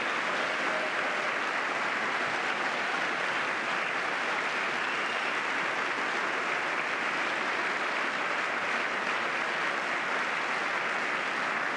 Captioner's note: applause